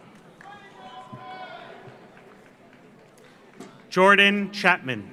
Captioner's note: audience applauds; audience cheers